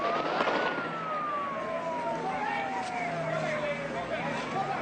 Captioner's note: sirens and gunfire